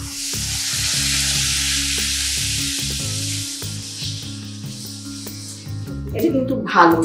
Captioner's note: cooking sound